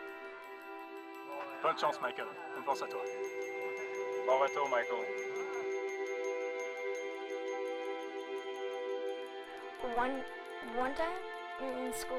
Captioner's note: speaking french